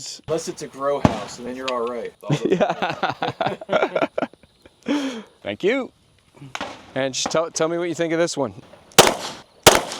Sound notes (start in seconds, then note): 2.2 growing laughter